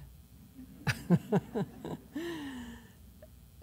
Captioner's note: laughter